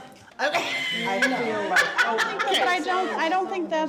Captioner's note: laughs